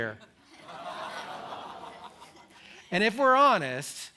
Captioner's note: moans and laughter